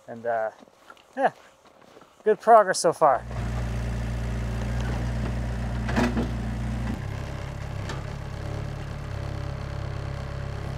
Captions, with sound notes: And yeah, good progress so far. (forklift engine roaring)